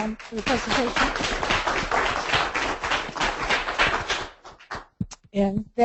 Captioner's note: applause